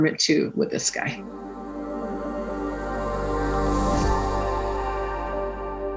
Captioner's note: fast diminishing sound